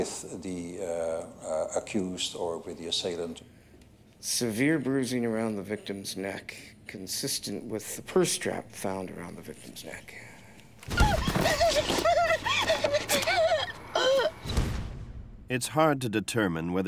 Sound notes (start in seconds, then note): 12.1 screaming